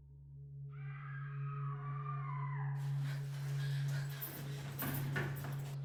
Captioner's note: Shauna screaming; footsteps running